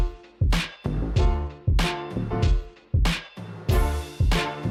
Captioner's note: none